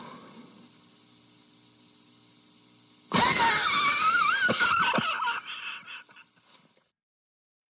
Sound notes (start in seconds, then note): 3.1 laughter